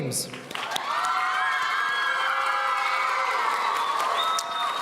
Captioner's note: audience cheering